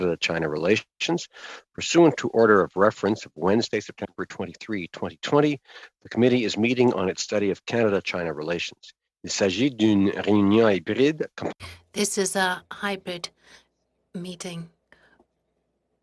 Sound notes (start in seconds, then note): 12.6 speaking French